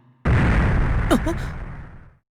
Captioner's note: gasp